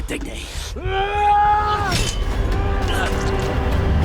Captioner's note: Ander shouting; dramatic music